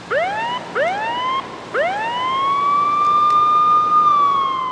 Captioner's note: police sirens wailing